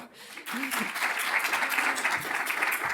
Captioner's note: applause